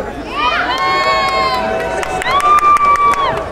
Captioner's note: crowd cheering